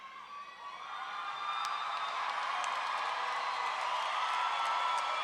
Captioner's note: roaring cheer and applause